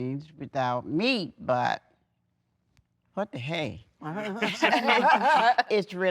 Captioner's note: everyone laughing